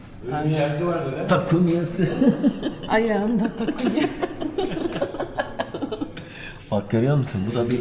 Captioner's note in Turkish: kahkaha